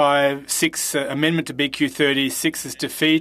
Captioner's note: speaking French